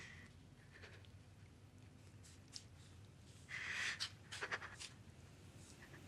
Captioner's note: sobbing breath